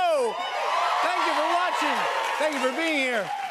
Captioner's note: cheers and applause